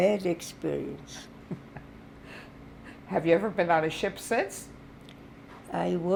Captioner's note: laughing